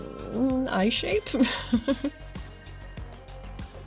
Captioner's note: laughing